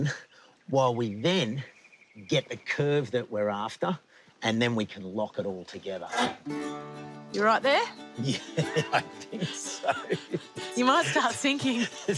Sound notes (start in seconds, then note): 8.1 laughs